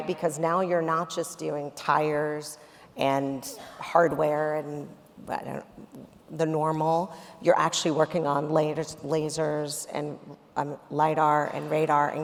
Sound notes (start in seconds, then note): none